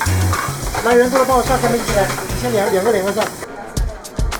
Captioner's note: & kitchen chatter